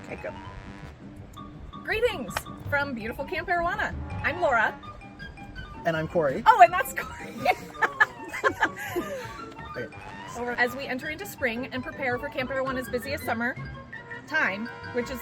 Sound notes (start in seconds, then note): 7.0 both laughing...and sigh